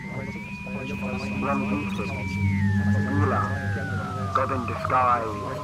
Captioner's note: radio signal chimes